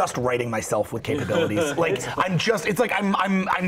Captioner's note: laughter